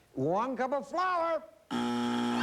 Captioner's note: buzzer